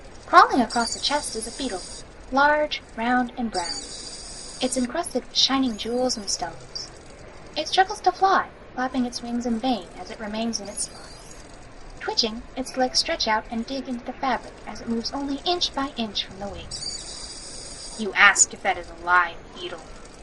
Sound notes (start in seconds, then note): 3.4 distressed beetle noises continues; 3.5 beetle noises, wings fluttering, screeching, crying; 9.7 distressed beetle noises continues; 15.0 distressed beetle noises continues; 16.1 mall Sounds still Continuing